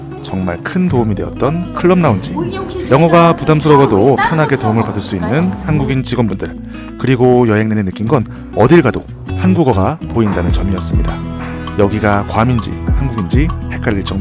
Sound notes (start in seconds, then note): 5.7 haha